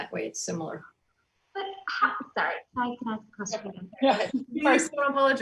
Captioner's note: overlapping chatter